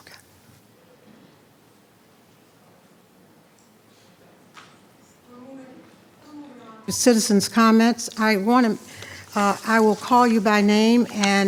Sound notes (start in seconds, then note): 4.7 speaking faintly